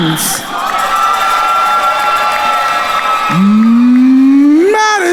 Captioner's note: attendees cheering and applauding